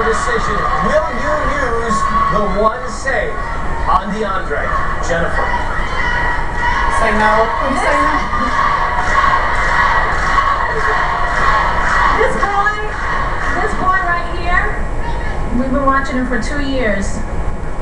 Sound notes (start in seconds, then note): 6.2 audience on tv chanting "save!; 8.2 chanting continues